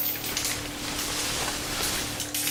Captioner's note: chains rattle